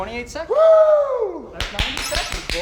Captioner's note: cheering